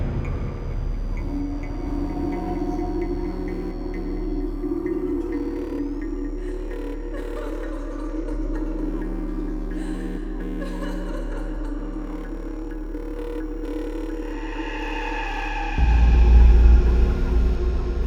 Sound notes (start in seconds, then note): 0.0 dramatic music; 6.9 faint sobbing; 10.3 dramatic music